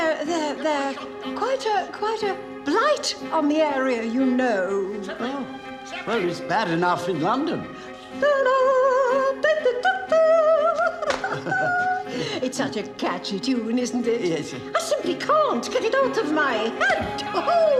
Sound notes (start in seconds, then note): 8.6 she hums